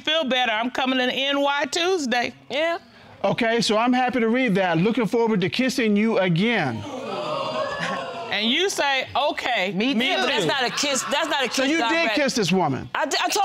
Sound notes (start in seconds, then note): 6.7 audience exclaiming